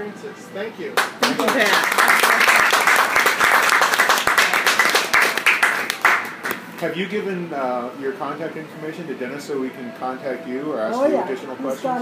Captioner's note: applause